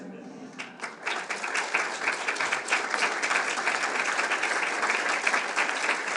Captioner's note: audience laughing; audience clapping